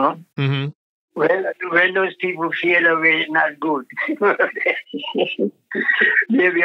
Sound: laughs

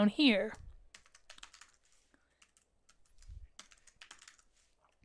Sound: keyboard clanking

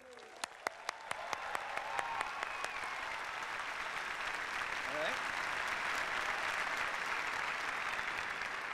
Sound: cheers and applause

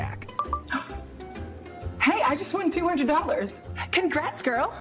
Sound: phone dings

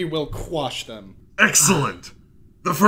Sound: sighs

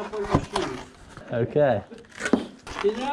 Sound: laughs

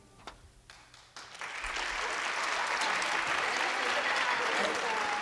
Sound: audience applauding

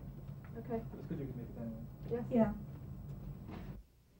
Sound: background conversations

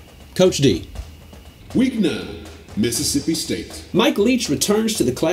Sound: automated Voiceover

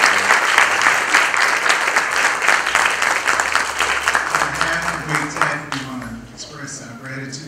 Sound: applause

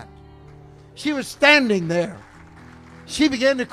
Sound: congregation clapping

